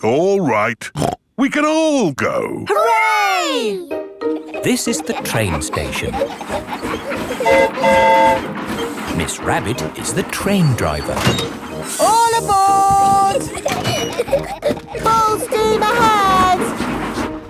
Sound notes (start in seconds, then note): 7.3 train whistle toots; 12.6 giggling